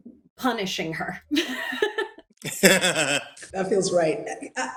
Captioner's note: laughs